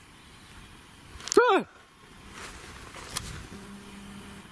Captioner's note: yelling